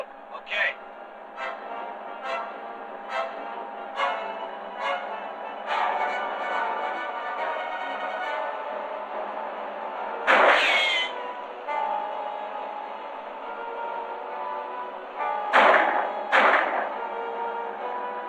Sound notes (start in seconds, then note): 10.2 gunshot; 15.5 gunshots